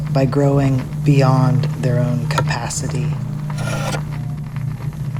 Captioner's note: sound of wood-working